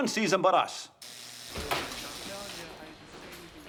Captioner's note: door buzzes